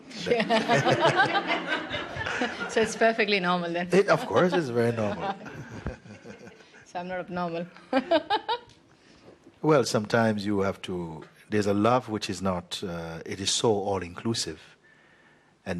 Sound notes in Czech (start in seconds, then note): 0.2 smích; 8.9 chichotání